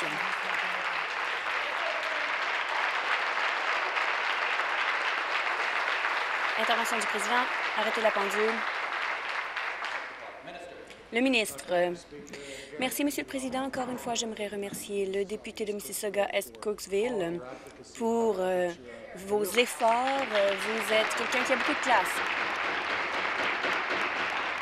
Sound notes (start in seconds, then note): 0.0 applause; 9.7 continued applause